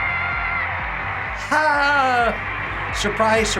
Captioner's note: triumphant music; sarcastic cheering